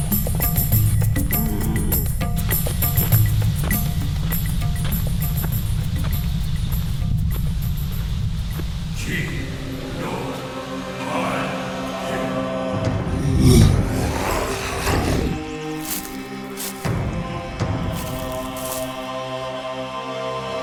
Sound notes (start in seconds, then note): 0.0 light upbeat music continues; 7.1 volcano rumbling; 9.9 singer chanting; 13.7 dinosaur grumbling; 17.6 dramatic music